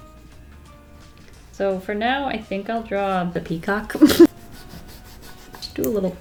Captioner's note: laughs